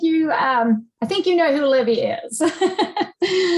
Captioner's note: laughs